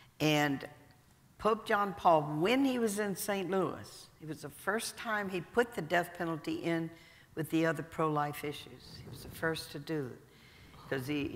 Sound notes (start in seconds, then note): none